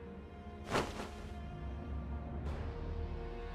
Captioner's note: sound of collapsing